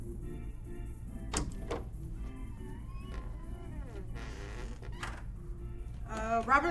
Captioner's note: cheery, background music; door clatters; creaks